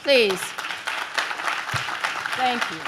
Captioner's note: audience claps